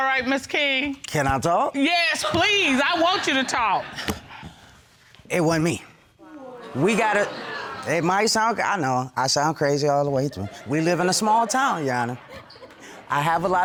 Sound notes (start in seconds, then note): 6.3 audience exclaims